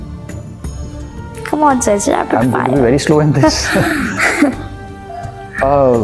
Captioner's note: laugh